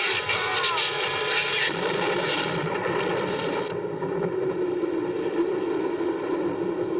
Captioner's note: thunder